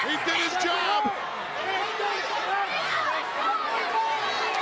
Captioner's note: crowd yelling